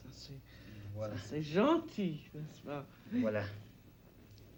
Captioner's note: both conversing in French